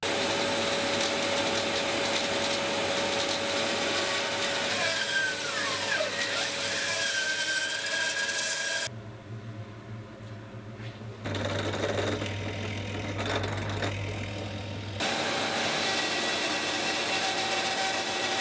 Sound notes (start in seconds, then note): 0.6 saw blade whirring; 4.7 high pitch whirring; 11.3 clanking; 15.4 blade whirring